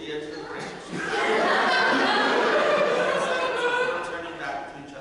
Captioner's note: audience laughter